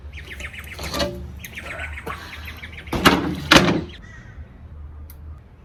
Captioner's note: wood scrapes on ground and then clatters loudly onto saw horses